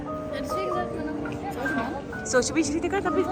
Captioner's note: speaking German